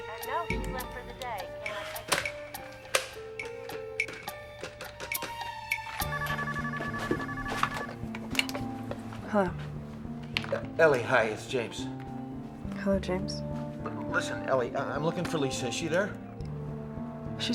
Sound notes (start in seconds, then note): 3.5 phone dialing; 6.0 phone ringing